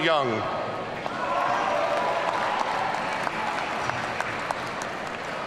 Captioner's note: audience cheering